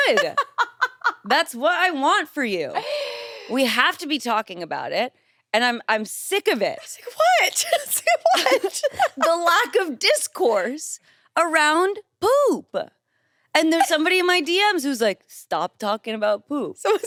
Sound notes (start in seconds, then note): 0.0 laughs; 6.9 laughs